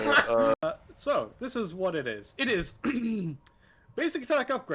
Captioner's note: clears throat